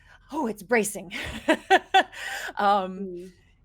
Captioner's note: person laughing